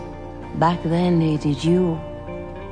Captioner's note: voiceover